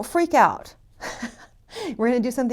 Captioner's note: laughs